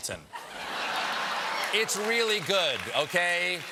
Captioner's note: laughter